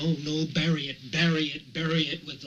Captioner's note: none